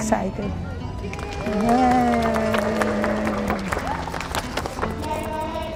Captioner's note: group cheers and applauds